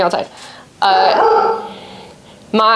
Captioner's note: more barking